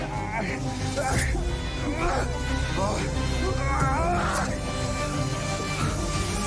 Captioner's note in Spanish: Jadeos y exclamaciones